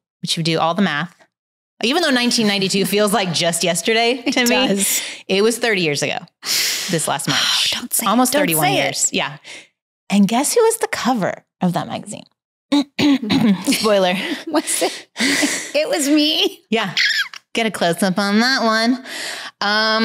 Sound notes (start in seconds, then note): 16.9 shrieks